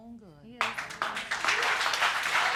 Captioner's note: audience applauding